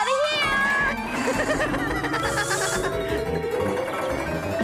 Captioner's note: Spud Laughing